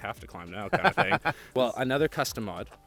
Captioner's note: laughing